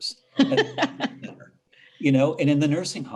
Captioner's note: laughing